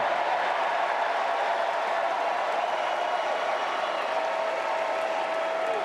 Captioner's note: applause